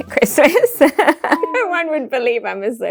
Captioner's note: giggles